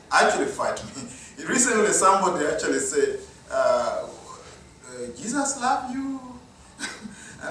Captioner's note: chuckle; chuckle